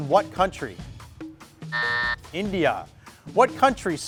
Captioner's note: timer buzzes